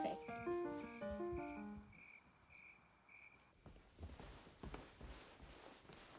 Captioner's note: classical piano music; crickets chirping